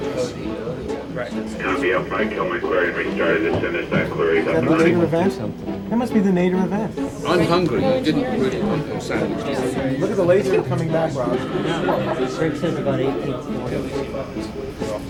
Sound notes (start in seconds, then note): 0.3 radio and room chatter; 9.5 room chatter; 11.8 lots of chatter